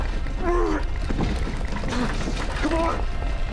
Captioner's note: grunting